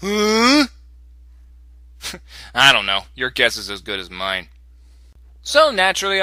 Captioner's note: snicker